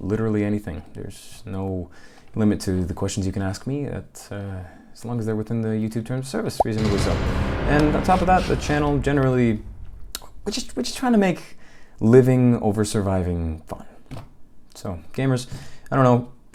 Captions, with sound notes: literally anything, there's... no...limit to the questions you can ask me at, uh, as long as they're within the YouTube terms of service, reasonably so. [OVERLAPPING VINE BOOM SOUNDS] as they're within the YouTube terms of service, reasonably so. [OVERLAPPING VINE BOOM SOUNDS] And on top of that, the channel generally... we're just- we're just trying to make... ...living over surviving, fun. So gamers, I don't know...